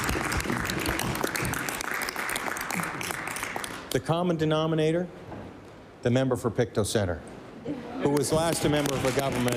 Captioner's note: applause